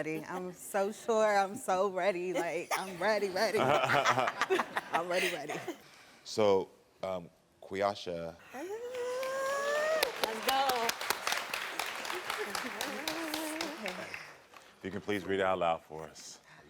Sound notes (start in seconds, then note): 2.4 all laughing; 12.0 audience clapping